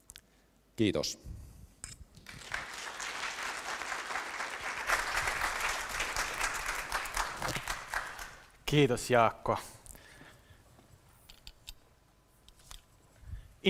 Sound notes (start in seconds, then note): 2.2 applause